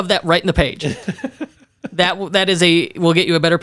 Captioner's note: laughs